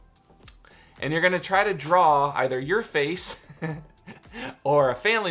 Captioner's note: chuckles